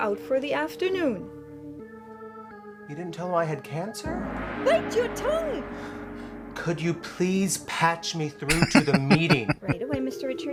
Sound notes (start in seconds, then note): 8.5 laughing